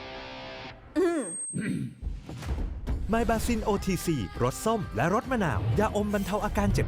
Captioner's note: clears throat